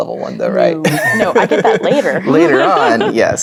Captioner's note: laughing